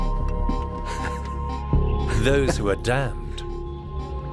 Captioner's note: Michelangelo laughs softly